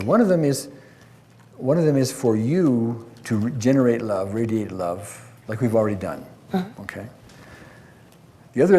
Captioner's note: none